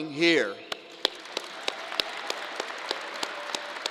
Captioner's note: crowd applause